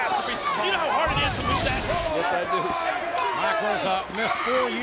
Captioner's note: audience chattering